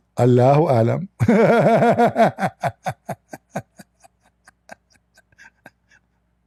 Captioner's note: Ketawa